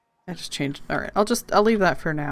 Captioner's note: none